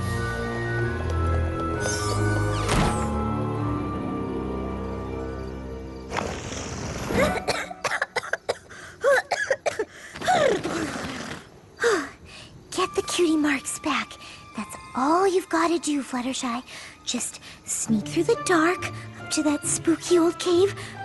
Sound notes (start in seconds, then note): 2.6 slam; 7.2 coughing; 11.8 sigh